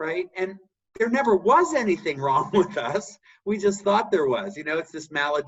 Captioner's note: laugh